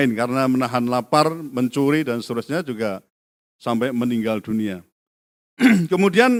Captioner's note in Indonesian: berdehem